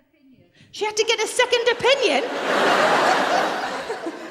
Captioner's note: laughter